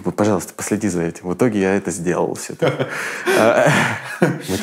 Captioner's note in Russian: Дудь смеётся